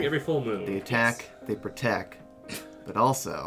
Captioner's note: snorts